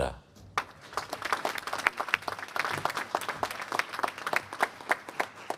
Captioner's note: applause